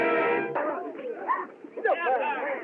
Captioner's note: chattering, Shouting